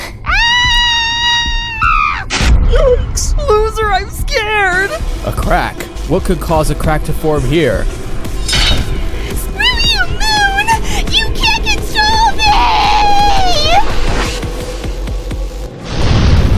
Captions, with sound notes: [screaming] [loud tumping] Yikes! Loser, I'm scared! A crack... what could cause a crack to form here? Screw you, moon! You can't control meeeeeee!